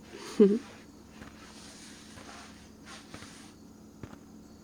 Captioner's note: small laugh